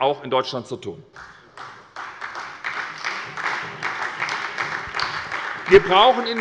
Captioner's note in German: Beifall bei der SPD